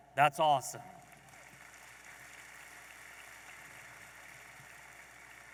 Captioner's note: audience applauding